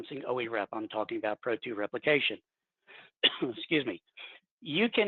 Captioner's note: coughs